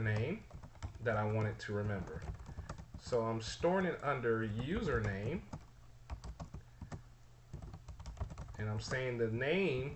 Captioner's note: typing sounds